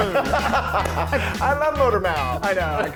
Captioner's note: laugh